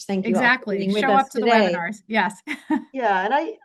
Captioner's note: chuckles